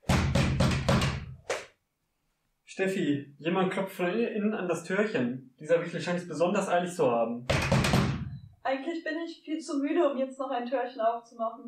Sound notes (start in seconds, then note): 0.0 louder knocking; 7.4 vigorous knocking